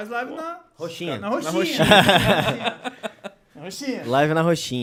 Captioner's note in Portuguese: risos